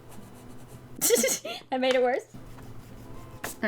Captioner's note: giggles